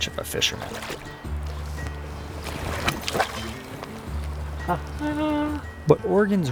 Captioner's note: water sloshing